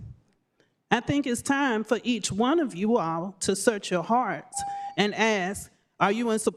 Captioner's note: beep